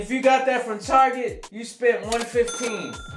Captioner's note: ka-ching